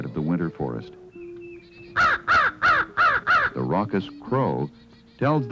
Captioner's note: crow cawing